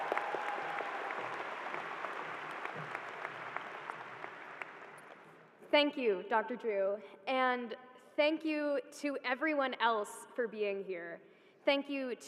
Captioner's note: cheers and applause